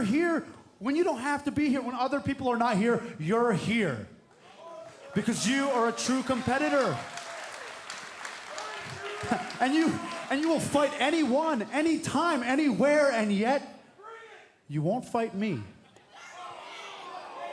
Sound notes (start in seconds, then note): 9.0 cheers and applause; 16.0 cheers and boos